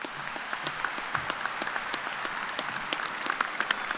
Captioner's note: applause